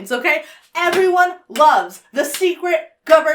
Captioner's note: claps